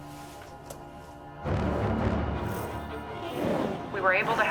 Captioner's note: robot speaking in foreign language